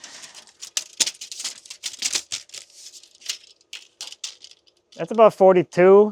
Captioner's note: measuring tape rattling